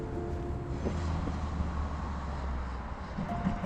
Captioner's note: air whooshing